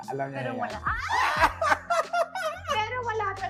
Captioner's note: both laugh